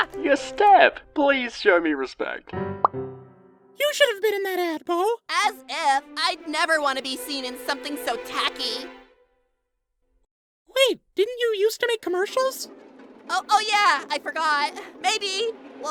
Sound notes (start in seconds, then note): 2.5 pop